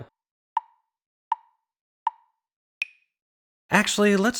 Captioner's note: tick, tick, tick, tick, tock